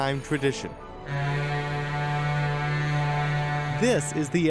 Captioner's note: boat horn blows